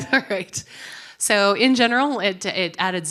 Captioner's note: laughter